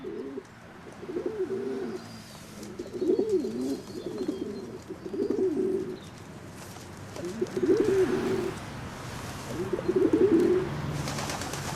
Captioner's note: pigeons cooing